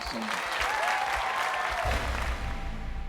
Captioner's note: crowd cheering